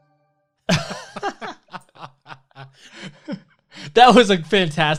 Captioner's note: guys laughing